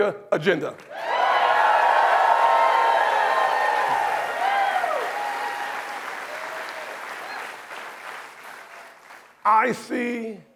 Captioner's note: applause